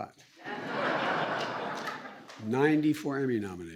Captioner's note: laughter